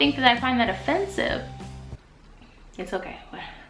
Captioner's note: breathes deeply